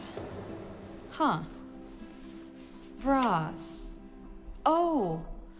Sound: drawer opening

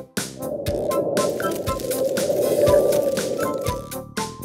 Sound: wind blowing

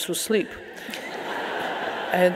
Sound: audience laughing

